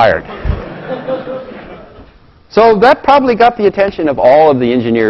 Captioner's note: laugh